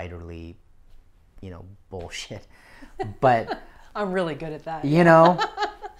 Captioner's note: laughs